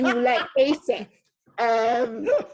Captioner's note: laughing